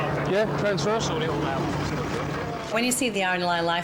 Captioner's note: rescuers chatting